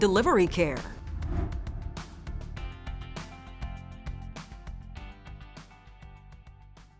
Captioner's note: soft music; air whooshes